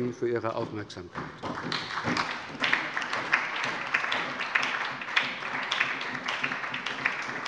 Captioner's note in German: Beifall bei der SPD und der LINKEN